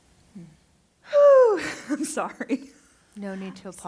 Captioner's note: exhale